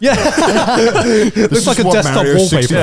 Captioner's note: all laughing